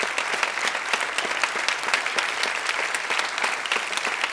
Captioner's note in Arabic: تصفيق